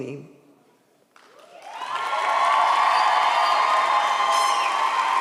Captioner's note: audience cheers